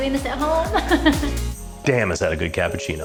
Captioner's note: laughs